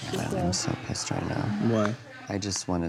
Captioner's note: muttering